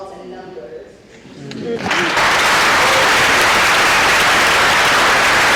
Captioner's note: audience applause